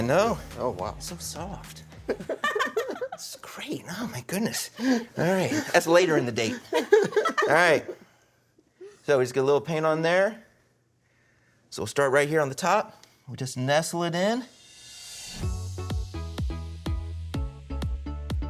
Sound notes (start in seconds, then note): 2.0 laughing; 6.3 laughing; 15.4 upbeat music